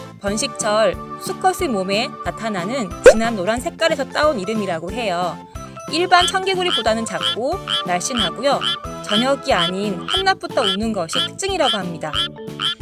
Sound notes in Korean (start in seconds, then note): 8.6 울음소리도 더 힘차고 굵어요!